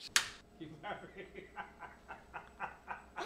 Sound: man laughing in background

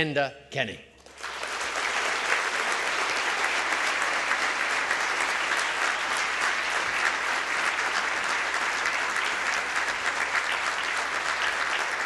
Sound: applause

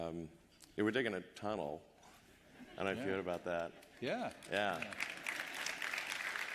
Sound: laughter

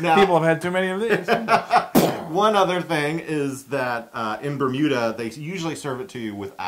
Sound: laugh

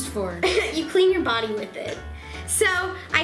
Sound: laughing

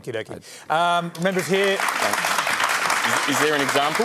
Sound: applause

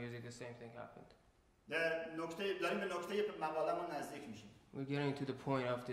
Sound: speaking in farsi

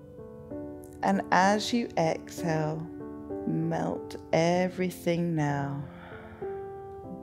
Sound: exhales

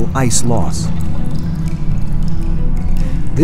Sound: water dripping

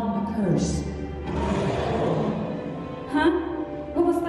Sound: monster roar

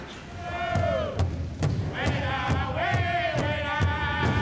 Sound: people chanting

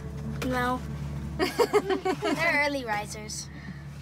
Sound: laughter

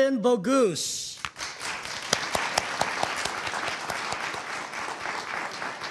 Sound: audience applauding

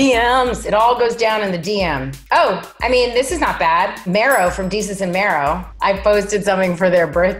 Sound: none

